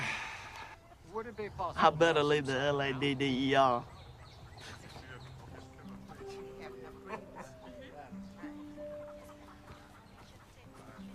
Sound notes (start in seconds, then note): 3.8 laughs